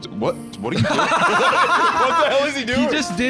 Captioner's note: laughs